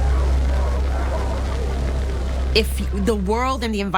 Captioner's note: fire crackling